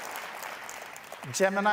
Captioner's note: cheers and applause